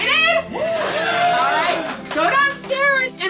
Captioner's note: applause